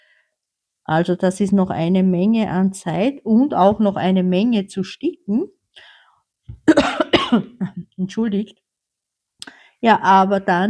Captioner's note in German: husten